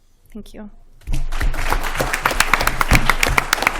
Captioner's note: applause